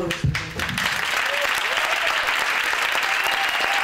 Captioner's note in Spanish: Aplausos